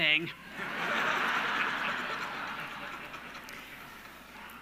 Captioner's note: audience laughing